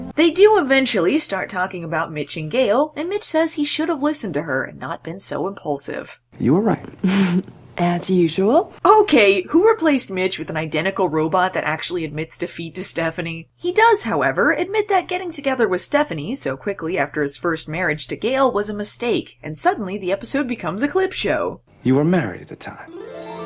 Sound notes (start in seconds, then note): 6.8 chuckles